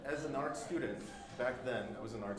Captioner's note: group laughing